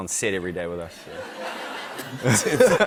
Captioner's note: laughter